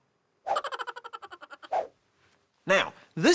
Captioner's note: minion laughing